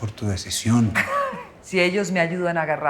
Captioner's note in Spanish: Risas